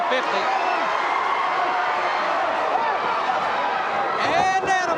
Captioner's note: audience cheers